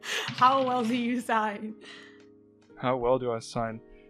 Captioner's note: dice clacks